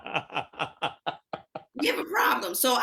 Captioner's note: laughing